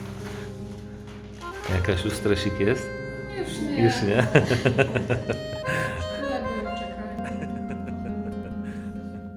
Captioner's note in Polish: śmiech